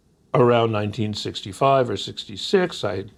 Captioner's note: none